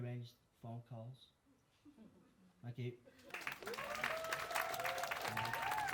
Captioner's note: applause